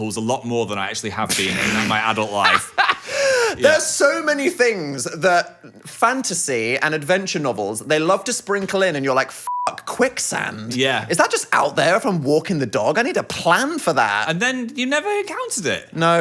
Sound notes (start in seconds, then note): 1.4 laughs; 9.4 beep